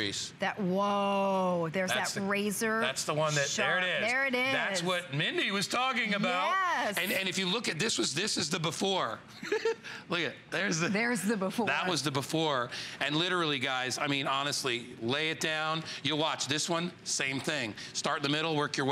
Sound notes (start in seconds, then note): 9.4 laughter